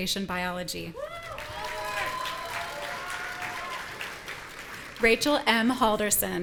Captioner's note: audience cheering